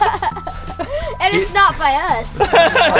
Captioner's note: laughter; laughs